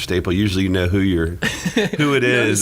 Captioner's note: lauging